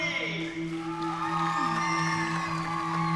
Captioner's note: cheering